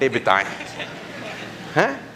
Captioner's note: chuckles